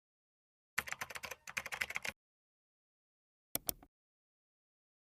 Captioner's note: keyboard keys clacking